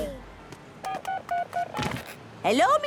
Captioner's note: dial tones beeping